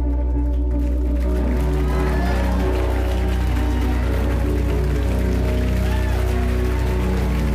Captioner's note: cheers & applause